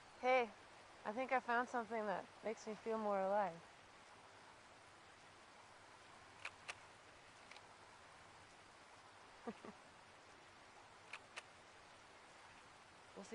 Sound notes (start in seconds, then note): 6.4 shutter clicks; 9.4 giggles; 11.1 shutter clicks